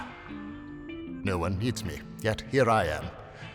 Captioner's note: sighs